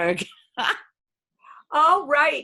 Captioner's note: laughs